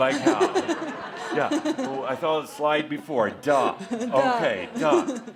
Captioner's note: laughter